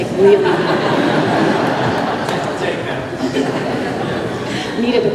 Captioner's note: laughter